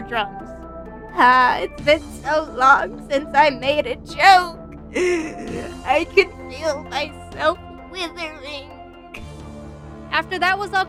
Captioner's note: dramatic inhale